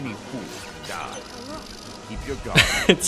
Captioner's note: chirp chirp